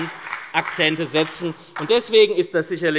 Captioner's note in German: Beifall bei der SPD